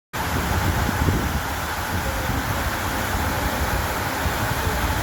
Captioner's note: sound of a water fontain